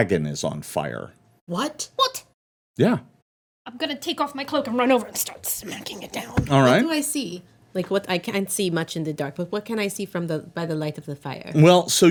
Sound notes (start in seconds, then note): none